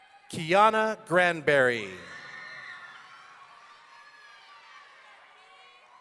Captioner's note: audience cheering